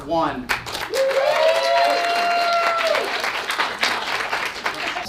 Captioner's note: audience cheering